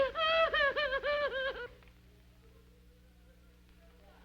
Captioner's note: aunt sobbing